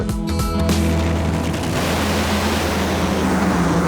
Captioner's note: racing engines